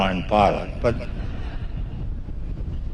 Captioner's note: laughter